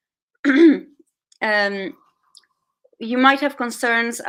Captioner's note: clears throat